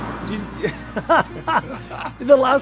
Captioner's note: laughing